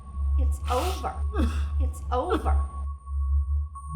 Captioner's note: Isaac sobbing